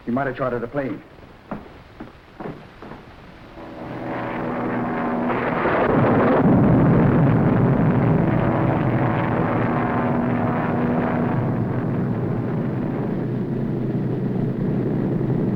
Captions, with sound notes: He might've chartered a plane. (footsteps echoing) (plane whirring)